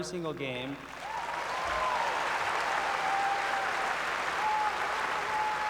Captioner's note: applause